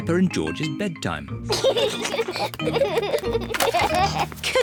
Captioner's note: both giggle